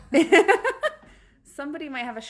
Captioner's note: laughs